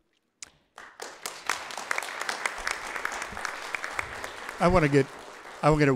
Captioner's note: audience applauds